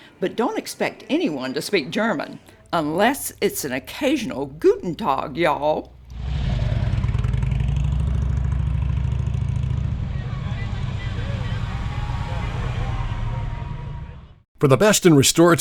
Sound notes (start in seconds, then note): 4.7 speaking in German; 6.3 motorcycle engine rumbling; 12.2 car engine humming